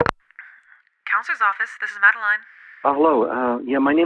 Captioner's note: counsellor, on the phone